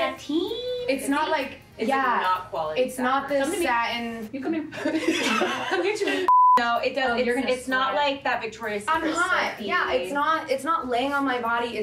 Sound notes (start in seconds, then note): 6.2 screen beep